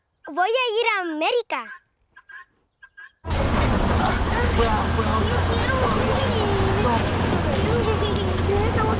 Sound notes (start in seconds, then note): 3.3 whining in spanish